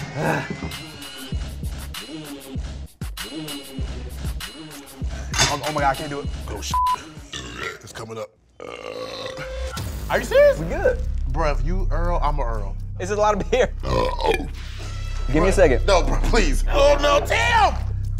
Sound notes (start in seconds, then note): 0.0 upbeat music; 6.7 beep; 8.5 belches; 13.8 belches